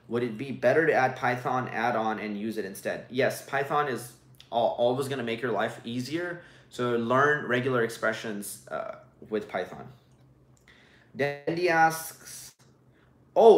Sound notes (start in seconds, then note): none